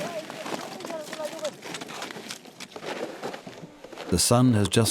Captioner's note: speaking foreign language